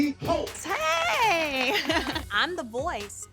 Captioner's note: chuckles